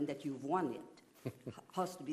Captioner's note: chuckles